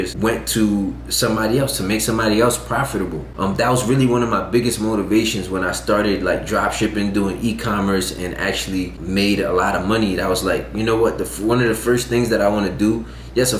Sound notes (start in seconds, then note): none